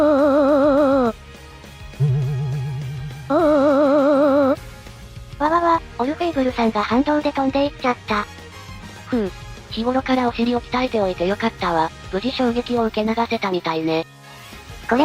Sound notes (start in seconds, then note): 2.0 bang